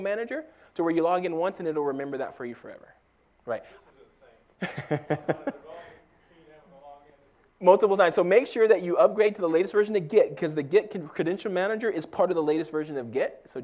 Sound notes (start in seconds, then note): 4.6 laugh